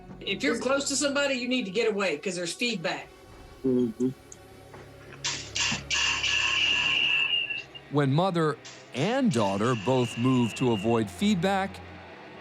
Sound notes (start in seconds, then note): 4.7 feedback whining